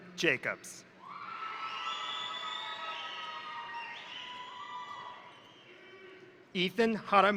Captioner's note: crowd cheering; crowd applauding